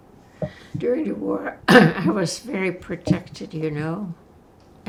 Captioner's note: clears throat